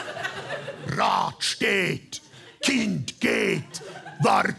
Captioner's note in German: Mit tiefer Stimme